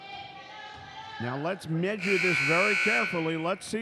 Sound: buzzer dings

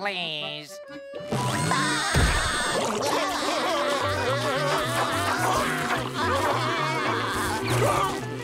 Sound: laughing

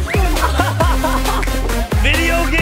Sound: dad laughs

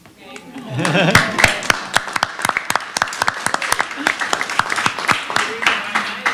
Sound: applause

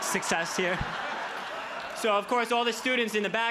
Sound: crowd laughs

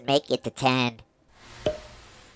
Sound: pop

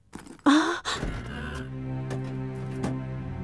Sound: sound of key; scary music; gasps

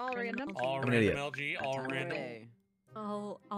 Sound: group chattering

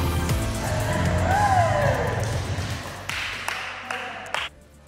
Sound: people clapping and cheering

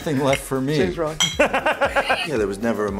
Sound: Harrison laughing

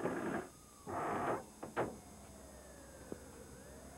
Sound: sirens

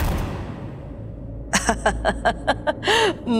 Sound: laughing

